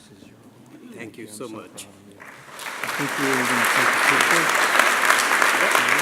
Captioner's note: applause